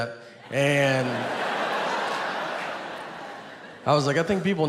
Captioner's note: audience laughs